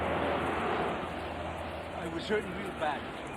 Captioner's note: vehicles whirring